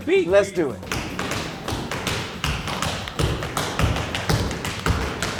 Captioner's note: shoes tapping rhythmically